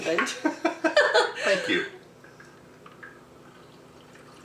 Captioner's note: laughing